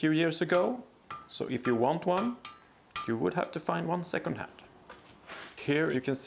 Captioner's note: anvil